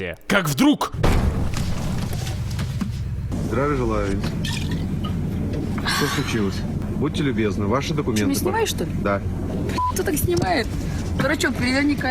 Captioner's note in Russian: слышится глухой удар